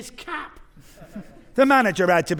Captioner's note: audience laughing